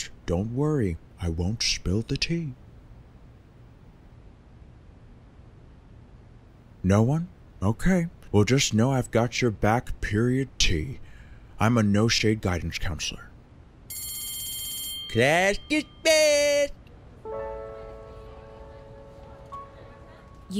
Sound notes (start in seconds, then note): 13.9 bell rings; 17.2 somber music